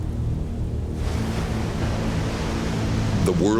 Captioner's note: waves crashing